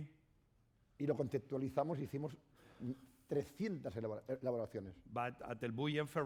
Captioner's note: speaking spanish